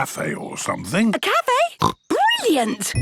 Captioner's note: snorts